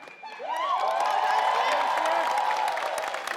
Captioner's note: audience cheers